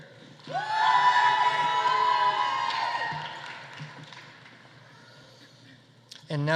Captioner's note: audience applauding; audience cheering